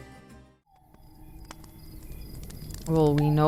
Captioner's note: birds chirping